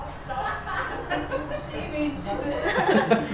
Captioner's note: group laughs